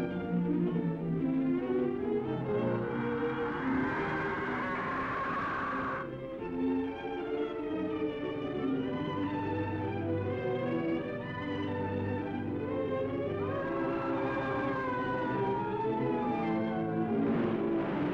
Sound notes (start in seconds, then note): 2.8 bird screeches; 6.5 dramatic music; 13.2 murder screams